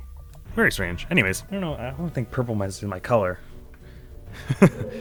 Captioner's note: chuckles